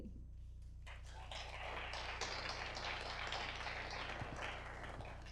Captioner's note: audience applause